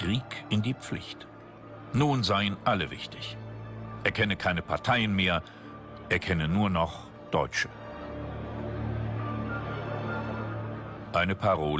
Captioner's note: in German